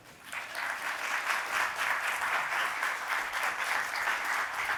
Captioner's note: audience clapping